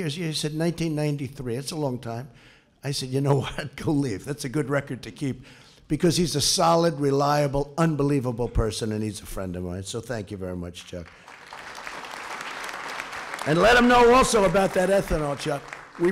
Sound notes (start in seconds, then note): 11.0 applause